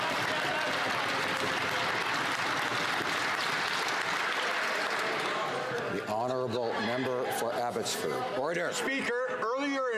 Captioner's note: some Applause